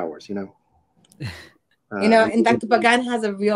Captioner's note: laughs